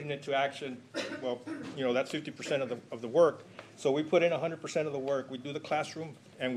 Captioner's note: clears throat